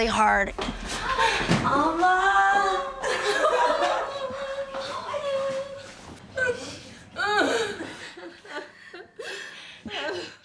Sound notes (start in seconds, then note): 2.6 crying; 6.3 sobbing